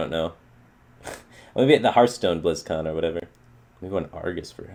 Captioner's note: chuckle